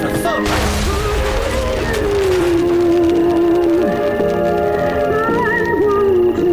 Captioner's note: explosion booming